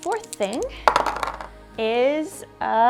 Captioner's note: dice clunking